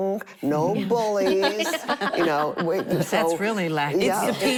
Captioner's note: laughter